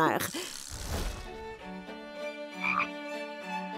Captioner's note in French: coassements